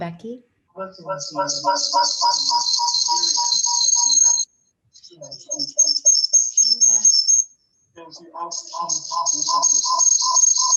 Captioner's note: more strange whirring, intermixed with a high-pitched whine